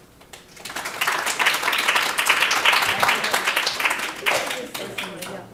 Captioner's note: audience applauding